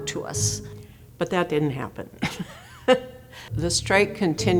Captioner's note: laughs